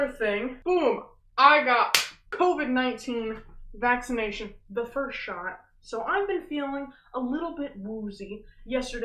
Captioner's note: slaps